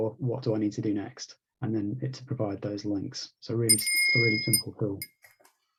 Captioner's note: bell rings